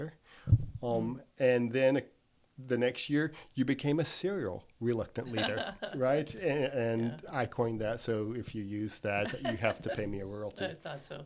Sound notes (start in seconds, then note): 5.3 laughs